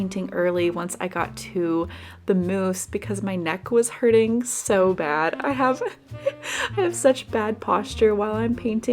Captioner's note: laughs